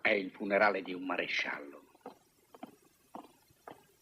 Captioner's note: whispers